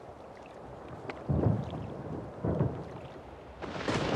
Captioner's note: waves thundering onto beach